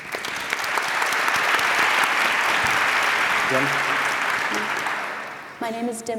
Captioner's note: applause